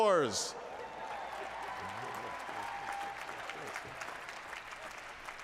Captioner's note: applause